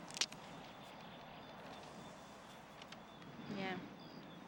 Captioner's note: branches cracking